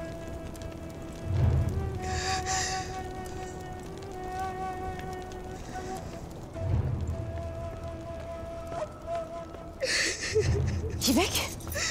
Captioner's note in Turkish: Ağlıyor